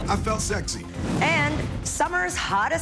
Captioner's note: none